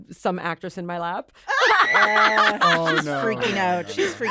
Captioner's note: hannah shrieks